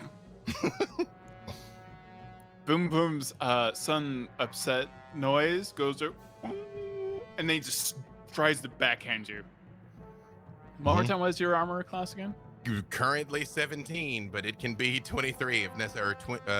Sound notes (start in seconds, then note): 6.4 grunts